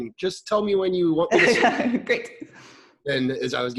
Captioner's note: laughing